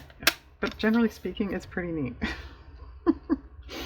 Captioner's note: laughs